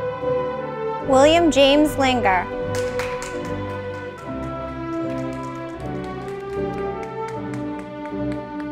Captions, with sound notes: William James Linger, (audience applauding)